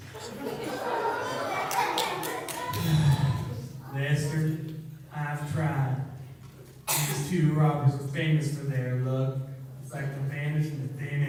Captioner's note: sighs